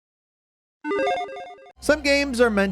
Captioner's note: console beeps